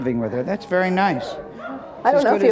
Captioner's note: audience mumbling